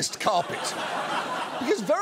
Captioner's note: audience laughs